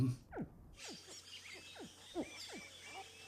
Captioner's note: birds chirping